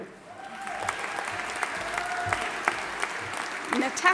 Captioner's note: audience applauding and cheering